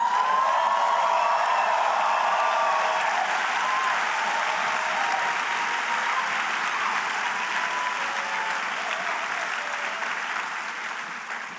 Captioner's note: cheers and applause